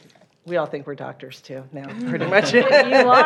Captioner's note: laughs